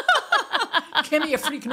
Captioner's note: both laughing